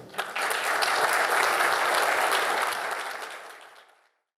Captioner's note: applause